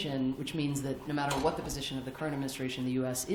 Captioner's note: none